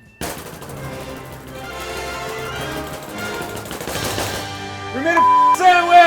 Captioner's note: dramatic music; hands slapping on table